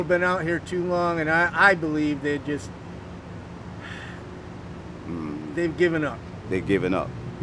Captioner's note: sighing